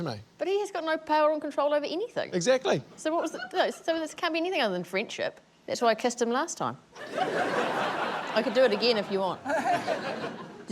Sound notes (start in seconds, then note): 7.0 laughter